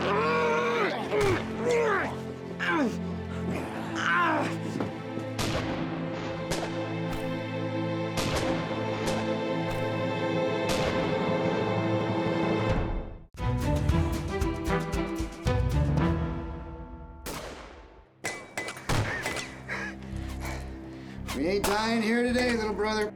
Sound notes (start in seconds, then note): 3.1 groaning; 6.8 gunfire; 17.2 gunfire